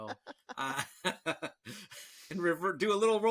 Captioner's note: all laughing